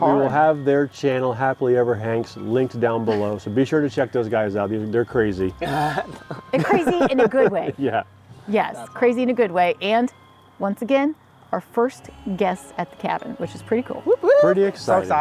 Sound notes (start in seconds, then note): 5.7 group laughs